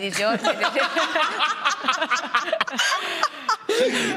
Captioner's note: they all laugh